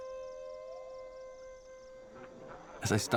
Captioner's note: men talking and laughing